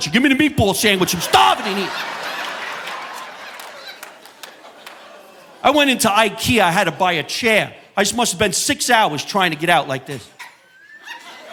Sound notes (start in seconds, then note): 3.2 audience laughing